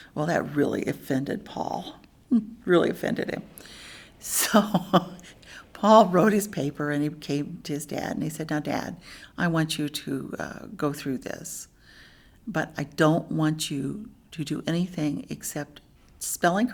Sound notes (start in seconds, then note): 4.3 laughs